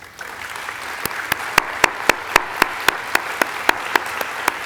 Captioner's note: audience applauding